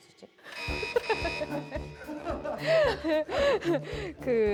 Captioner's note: lost in chatting